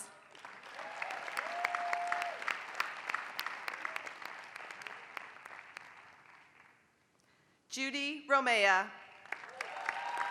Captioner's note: applause; applause